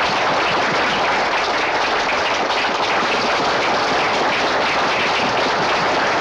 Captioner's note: applause continues